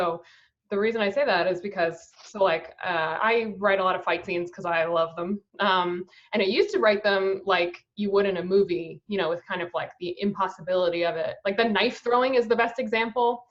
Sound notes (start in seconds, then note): none